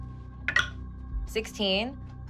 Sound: rolling dice

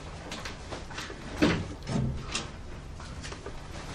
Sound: door opening

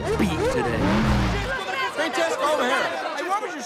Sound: shouting

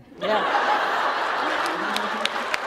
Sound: laughter

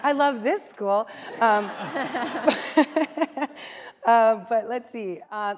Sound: laughter

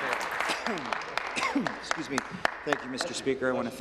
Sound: applause

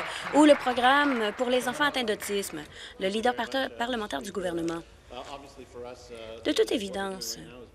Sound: applause

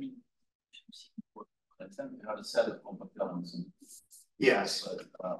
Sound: audio distorting

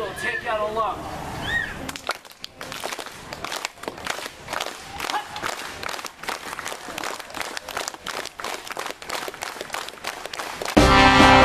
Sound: clapping Noises; intro Music

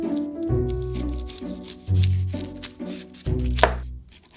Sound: knife slicing

